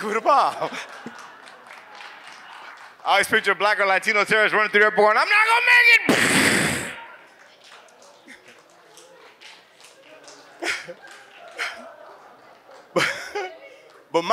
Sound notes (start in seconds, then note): 0.0 audience laughs; 6.1 mimics bomb exploding; 7.2 audience claps; 9.9 audience laughs; 10.6 chuckles